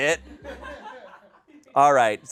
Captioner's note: people laugh